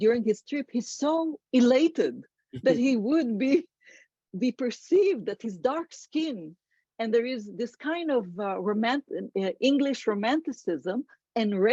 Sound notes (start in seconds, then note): 2.2 laughs